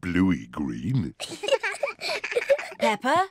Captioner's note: both giggle